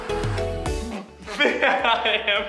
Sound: laughing

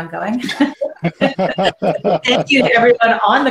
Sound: panelists laughing

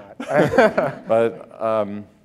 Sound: laughter

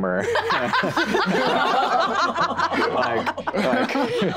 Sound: group laughing

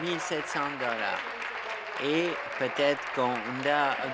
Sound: applause

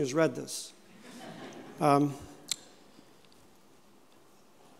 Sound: audience chuckling

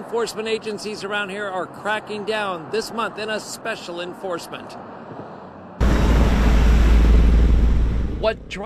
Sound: natural sound of traffic

